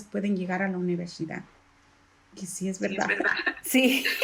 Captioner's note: laugh